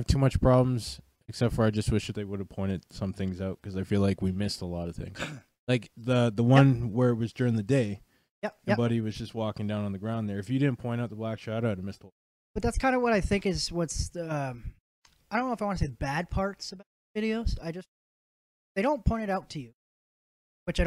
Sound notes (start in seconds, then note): 5.1 guilty Clears Throat